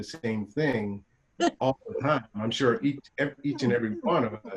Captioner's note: chuckling